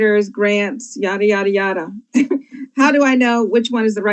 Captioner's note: group laughs